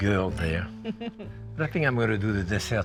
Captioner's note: chuckles